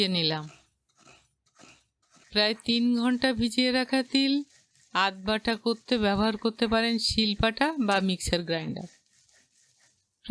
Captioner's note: grinding Stone